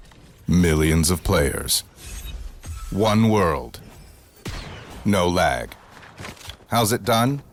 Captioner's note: thumping tones; voiceover